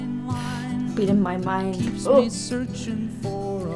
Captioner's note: sighs